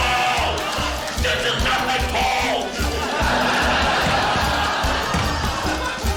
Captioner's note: laughter